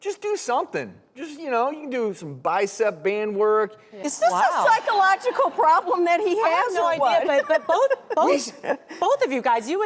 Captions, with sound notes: Just do somethin'! Just, you know, you can do some bicep band work. Is this a psychological problem that he has, or what? (audience laughing) I have no idea, but both of you guys,